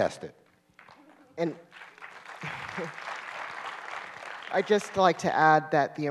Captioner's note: applause